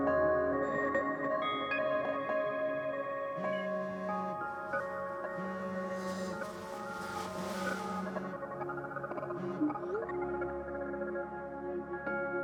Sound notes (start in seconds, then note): 3.4 phone buzzing; 9.5 tense dramatic music